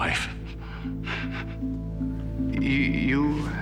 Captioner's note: chuckling nervously